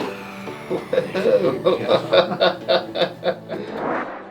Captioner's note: laughs